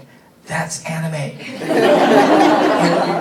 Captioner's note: everybody laughing